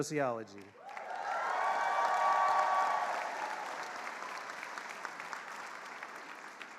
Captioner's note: attendees cheering and applauding